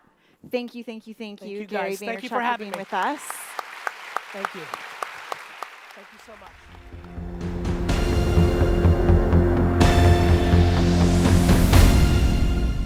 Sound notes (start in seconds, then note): 2.2 audience applause; 6.7 upbeat music